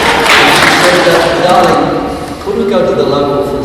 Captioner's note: laugh and claps